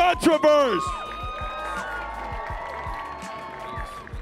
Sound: audience cheering

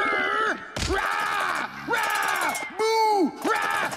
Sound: yelling

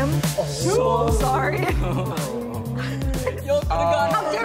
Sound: all gasping; all talking excitedly

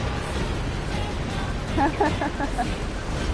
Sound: laughs

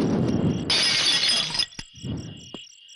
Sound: bottles shatters

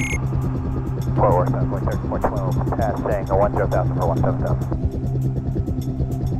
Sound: beeping; helicopter radioing in background

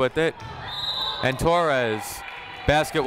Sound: whistle blowing

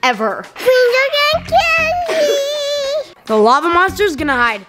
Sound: babbling

